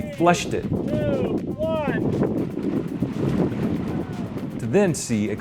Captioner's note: voice - 3-2-1... sound of rushing water